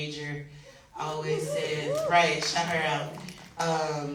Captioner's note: audience woos